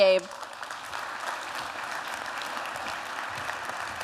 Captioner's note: applause